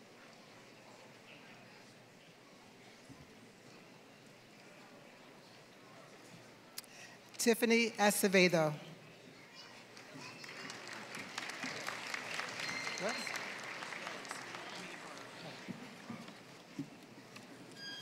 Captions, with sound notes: Tiffany Acevedo. >> [APPLAUSE]